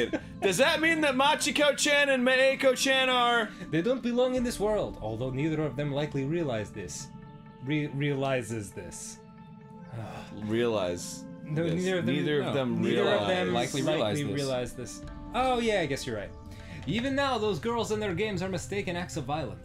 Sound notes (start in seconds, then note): 9.9 deep sigh